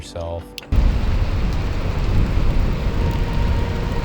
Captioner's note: fire rumbling